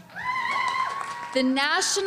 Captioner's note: audience cheering